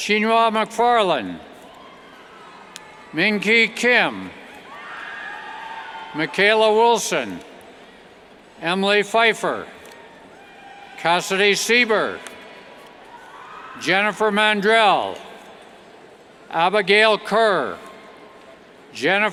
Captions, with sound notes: Mingee Kim, (cheers) Michalea Wilson, Emily Pfeider, Cassidy Seiber, Jennifer Mandrell, Abigayle Kerr, Jennifer Lash,